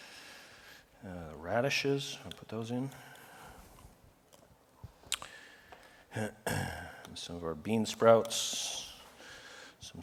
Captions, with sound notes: radishes, I'll put those in. [COUGH] Some of our bean sprouts.